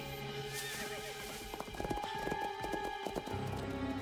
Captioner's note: horses whinnying